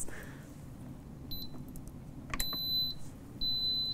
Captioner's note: beeping